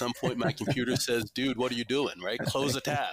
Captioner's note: laughs gently